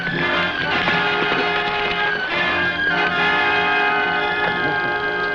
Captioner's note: horse hooves pattering